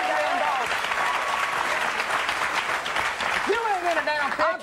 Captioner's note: audience cheering